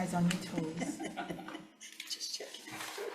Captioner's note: all chuckling